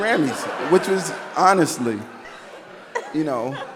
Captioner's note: audience laughing